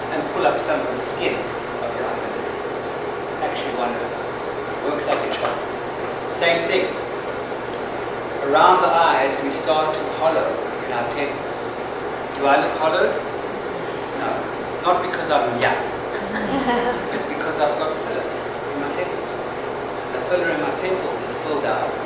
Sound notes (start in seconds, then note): 13.3 crowd murmurs; 16.1 people laugh